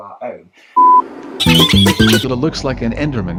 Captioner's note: high pitched laughing